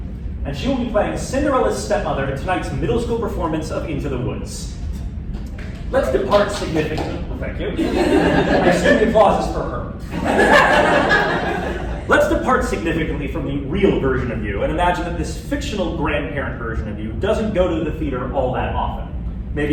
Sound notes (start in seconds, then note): 6.1 applause; 10.0 laughter